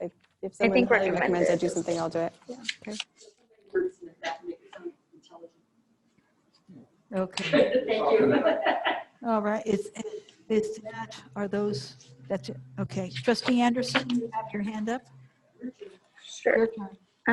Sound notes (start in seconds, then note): 7.4 laughing